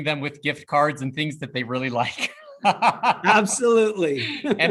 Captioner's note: laughs